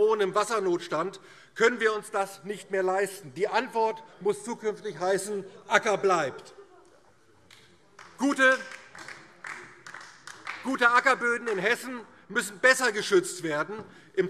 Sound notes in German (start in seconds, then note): 7.9 Beifall DIE LINKE